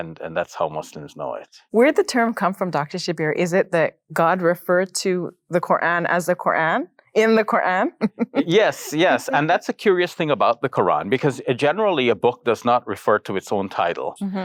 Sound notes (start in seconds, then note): 8.0 chuckles